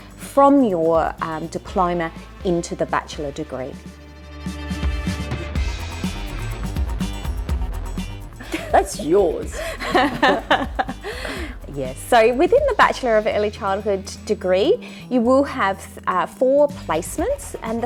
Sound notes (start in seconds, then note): 4.6 upbeat music; 8.4 laughs